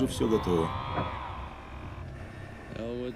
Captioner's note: whirring